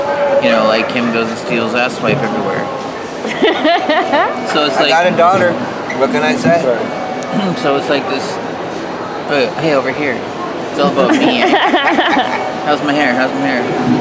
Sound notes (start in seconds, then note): 3.2 laughs; 10.8 laughs